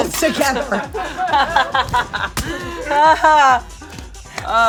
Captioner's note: laughing